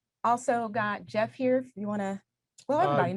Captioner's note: none